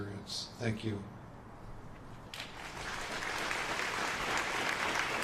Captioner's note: applause